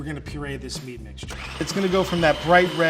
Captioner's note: food processor whirring